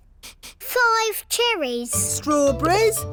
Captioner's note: sniffs